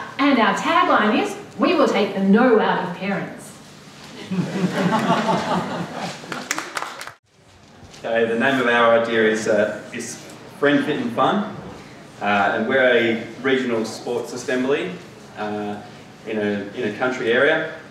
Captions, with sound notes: and our tagline is, "We will take the no out of parents." (laughter) - Ok, the name of our idea is Friend, Fit, and Fun. And we're a regional sports assembly, in a country area.